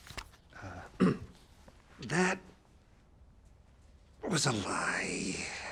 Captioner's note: clears throat